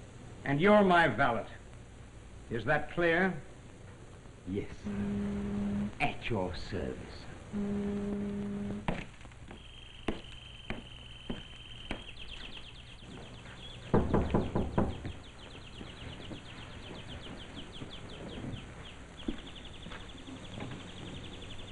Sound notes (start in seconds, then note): 8.6 noise of steps outside the cabin; 12.1 bird chirps in cage all the time; 13.9 knocking on cabin door; 15.3 repeated chirping in background